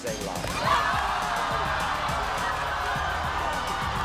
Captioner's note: crowd yells